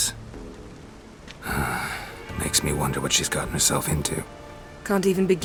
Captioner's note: sigh